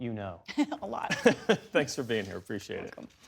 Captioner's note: laughter